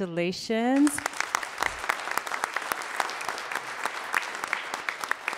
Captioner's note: everyone applauds